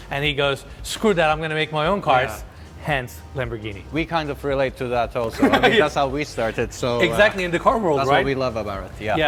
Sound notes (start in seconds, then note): 5.3 laughs